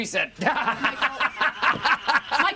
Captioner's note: laughs; laughing